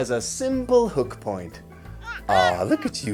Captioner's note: baby cooing